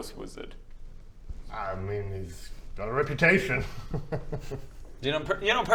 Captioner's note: nervous giggle